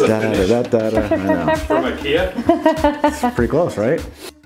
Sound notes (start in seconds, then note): 0.0 laughing